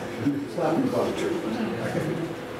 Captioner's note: laughter